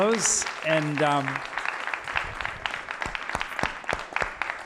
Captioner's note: applause